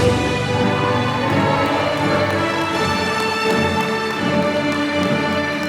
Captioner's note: applause